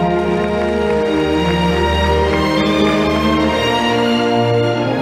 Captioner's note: audience applauding